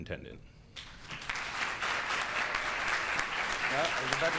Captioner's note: audience claps